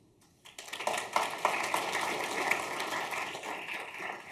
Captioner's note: audience clapping